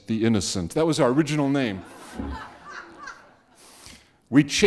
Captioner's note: audience laughing